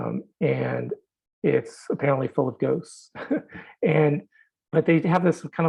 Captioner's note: chuckles